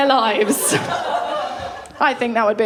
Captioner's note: laughter